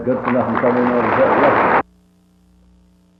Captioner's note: applause; silence